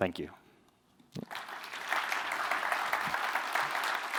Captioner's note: applause